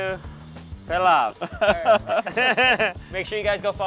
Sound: laughs

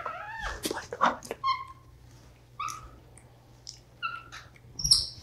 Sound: whispers

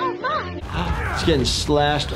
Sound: screaming

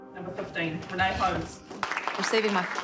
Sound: audience applauding

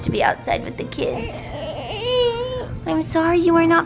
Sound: baby whining

